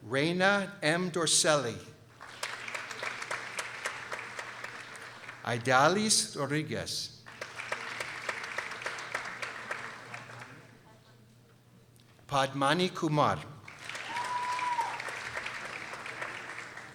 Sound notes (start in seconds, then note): 2.1 people applauding; 7.2 people applauding; 13.6 people applauding